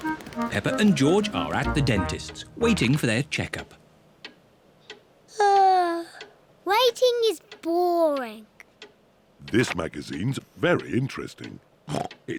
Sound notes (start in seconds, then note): 5.9 yawns; 11.9 snorts